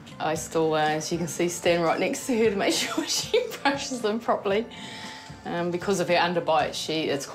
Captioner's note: chuckles